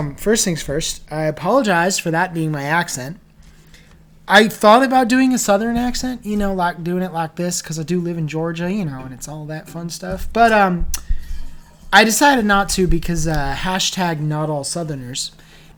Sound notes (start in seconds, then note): 6.2 terrible Southern accent